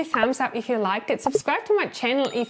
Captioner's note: bubble popping